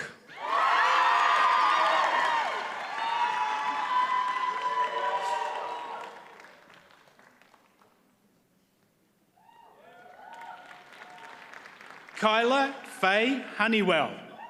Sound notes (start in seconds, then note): 0.4 audience cheers and applauds; 9.9 audience applauds